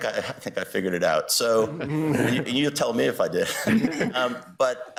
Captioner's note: justices chuckling